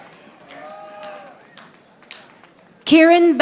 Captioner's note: audience applauding